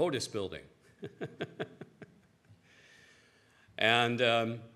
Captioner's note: chuckles